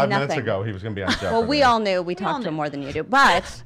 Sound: laughs

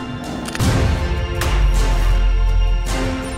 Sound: gunshot

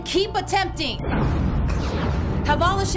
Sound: explosion

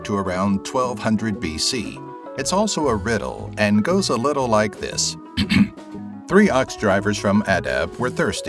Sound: clears throat

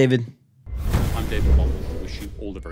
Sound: logo chiming

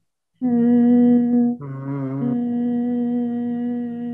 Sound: humming

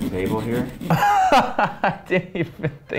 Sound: laughs

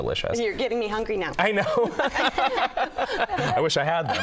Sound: laughter

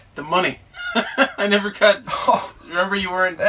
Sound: laughs

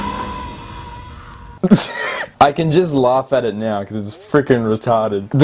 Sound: laugh

